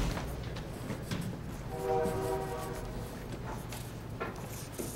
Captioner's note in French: sifflet de train au loin